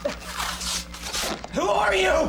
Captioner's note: tape ripping